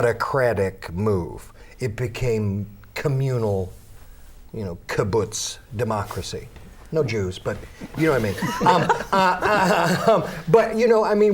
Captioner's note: laughter